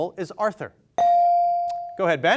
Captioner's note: bell sounding